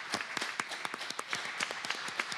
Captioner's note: applause